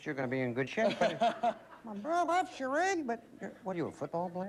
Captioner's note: high voice